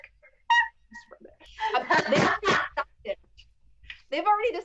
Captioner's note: laughs